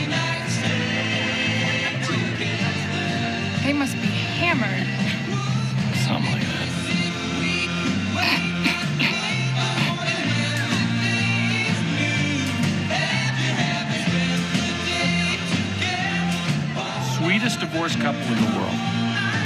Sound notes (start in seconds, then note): 8.3 man coughs loudly